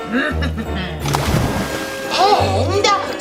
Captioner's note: splashing